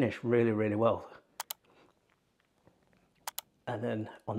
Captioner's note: computer mouse clicking